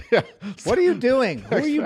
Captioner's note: laughter